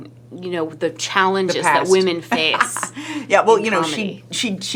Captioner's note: laughs